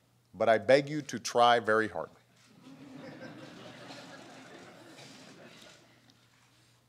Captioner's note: laughter